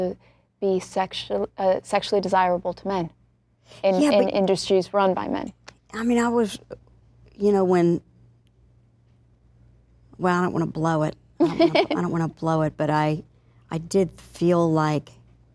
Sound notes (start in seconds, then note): 11.4 laughing